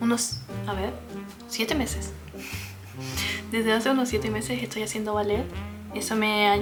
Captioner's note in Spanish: resoplido